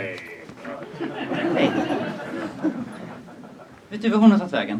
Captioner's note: laughter